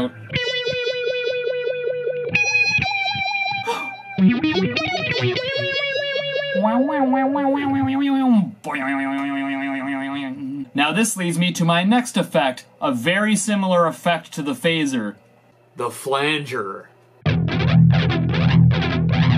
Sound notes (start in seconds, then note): 3.6 gasp!; 6.5 imitating the phaser